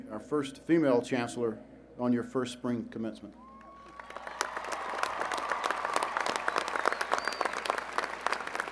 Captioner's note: applause